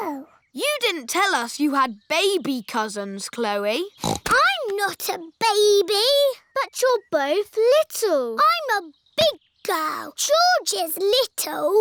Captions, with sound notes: You didn't tell us you had baby cousins, Chloe. (SNORTS) I'm not a baby! But you're both little. I'm a big girl. George is little.